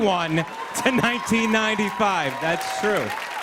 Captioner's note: cheers and applause